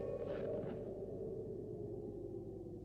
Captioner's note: none